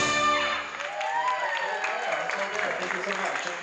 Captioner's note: cheering